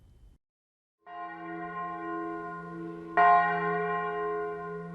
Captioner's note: bell ringing